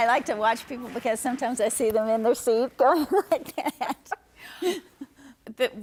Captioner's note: laughter